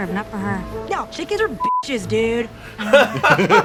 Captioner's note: beeps